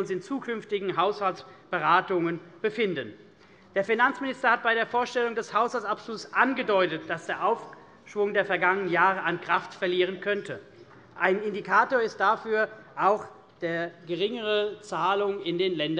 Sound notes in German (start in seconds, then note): none